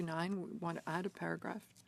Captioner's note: speaking French